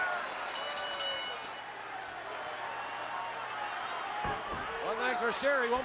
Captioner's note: bell ringing; crowd chattering